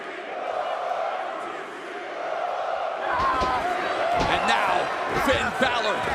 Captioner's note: crowd cheering